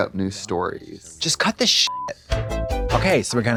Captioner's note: beep; synth bop